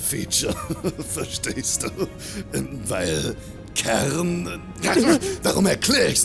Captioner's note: laugh